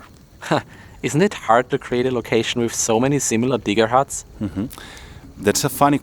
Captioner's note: laughs